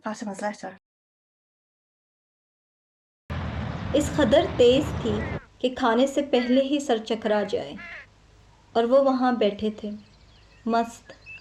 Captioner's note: A woman talking in another language